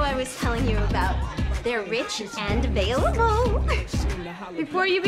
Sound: laughs

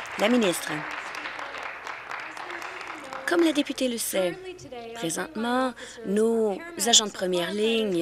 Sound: applause

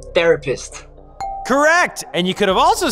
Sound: ding

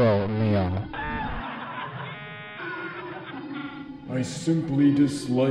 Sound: laugh track

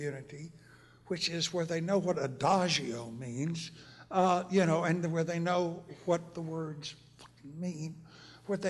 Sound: whispers

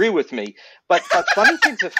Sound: laughter

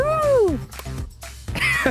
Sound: chuckles

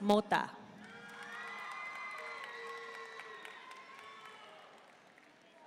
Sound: audience cheering and applauding

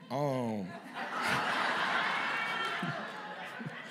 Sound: laughter

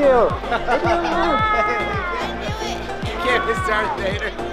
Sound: laughing

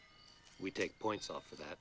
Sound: <i> tsking</i>

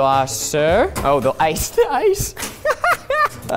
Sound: laughs

